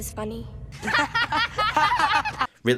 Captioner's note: laughs